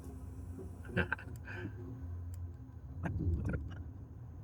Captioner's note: laughs